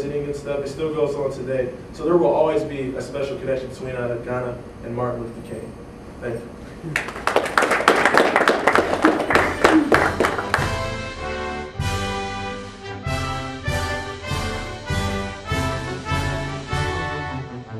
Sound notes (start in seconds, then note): 6.9 audience applause; 8.9 music playing-- no dialogue